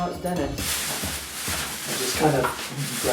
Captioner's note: polythene paper unfolding